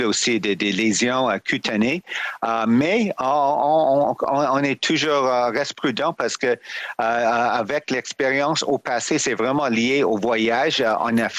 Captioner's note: speaking French